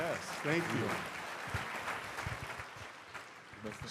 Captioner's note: applause